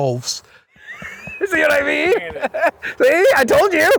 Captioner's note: laughing